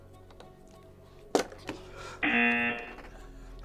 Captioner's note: klaxon blares; lid snaps; klaxon blares